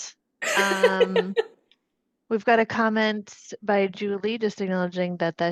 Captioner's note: laughs